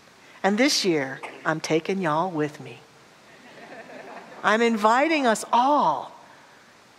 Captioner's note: audience laughter